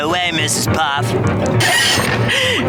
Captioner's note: screeching